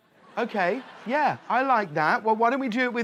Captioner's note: audience laughing